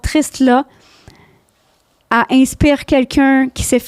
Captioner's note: in french